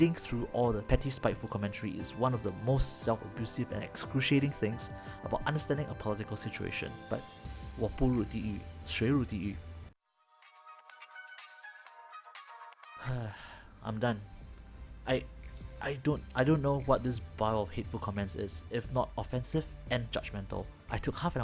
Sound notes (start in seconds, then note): 13.0 sigh